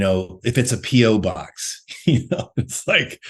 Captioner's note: laughs